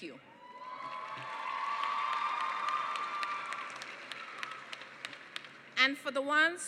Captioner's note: applause; cheering and applause